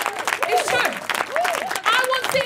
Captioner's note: audience applauding